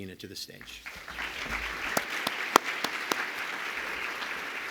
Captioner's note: audience applauds